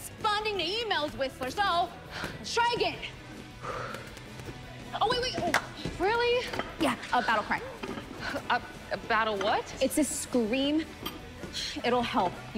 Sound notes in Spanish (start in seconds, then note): 3.5 respirando profundamente